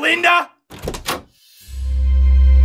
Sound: door opens; dramatic music

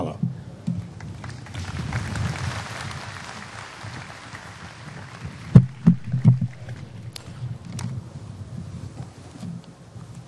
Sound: applause

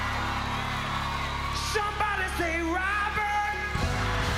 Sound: applause

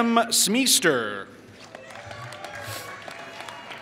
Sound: applause

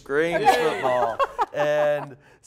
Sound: laughing

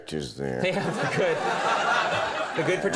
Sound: audience laughing

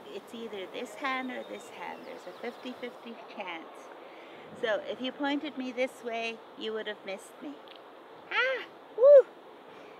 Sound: cheering

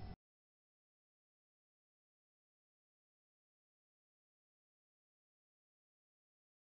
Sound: beeping

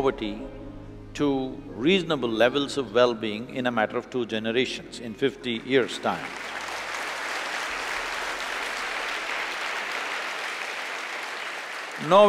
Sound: applause

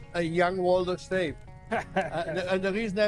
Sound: laughs

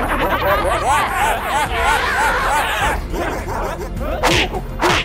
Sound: Hologram Professor laughing distortedly

